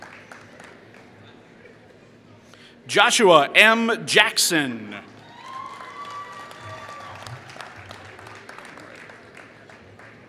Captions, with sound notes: Joshua M. Jackson [Applause]